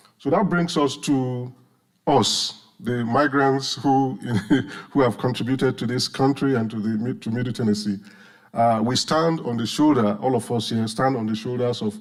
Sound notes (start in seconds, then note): 4.2 chuckles